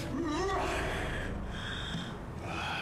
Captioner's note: yells